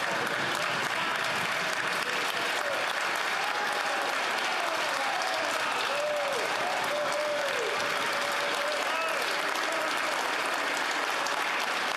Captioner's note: some Applause